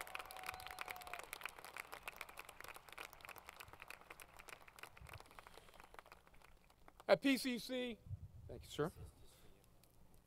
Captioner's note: applause